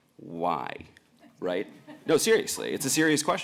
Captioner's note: laughter